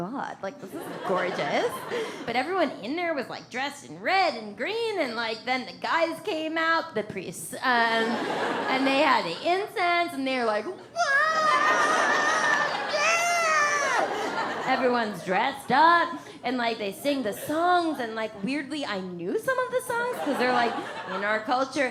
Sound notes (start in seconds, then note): 0.7 audience laughs; 8.0 audience laughs; 11.4 audience laughs